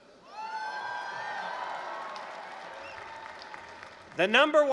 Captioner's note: applause, cheering